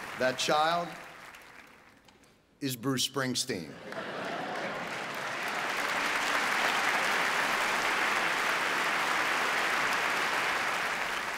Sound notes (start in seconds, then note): 3.7 audience laughing; 3.8 audience applauding